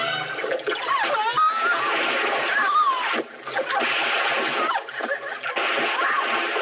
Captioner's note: Louise screaming; ax thudding; Louise screaming